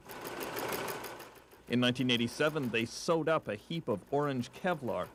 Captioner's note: machine whirring